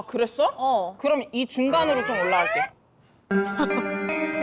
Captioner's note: sound effect of pulling it up